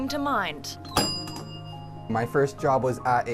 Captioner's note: bell dings